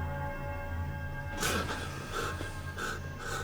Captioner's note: gasps, breaths heavily